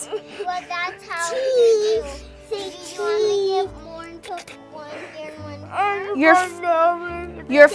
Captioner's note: child crying; child whimpering